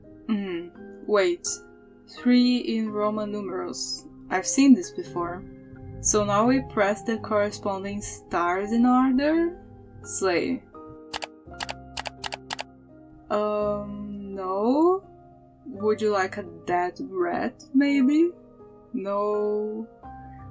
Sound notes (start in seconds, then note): 11.9 click click